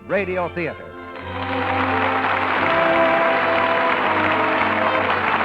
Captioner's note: applause